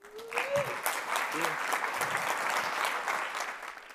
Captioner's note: audience applauds